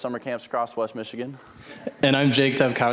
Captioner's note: audience chuckling